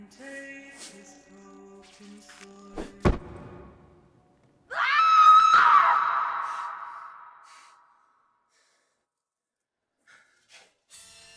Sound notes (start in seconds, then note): 2.8 hands thumping; 4.7 woman screaming